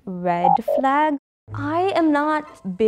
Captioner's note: buzzer sounds